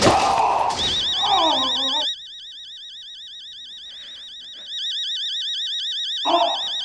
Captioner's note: alarm blaring